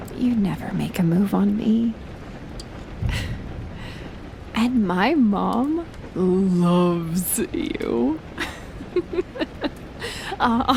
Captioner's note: she laughs